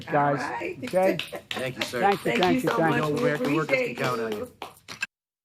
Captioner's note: laughter